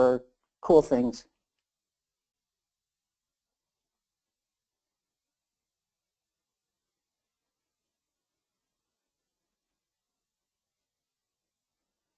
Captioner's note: silence